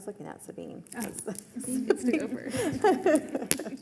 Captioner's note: laughing